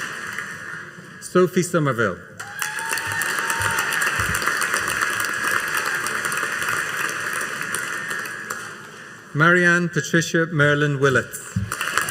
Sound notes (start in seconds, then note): 2.4 audience cheering and applauding